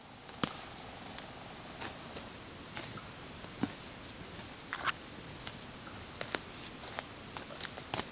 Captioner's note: forest sounds, bird calls